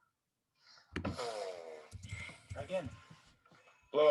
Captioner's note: boy sputtering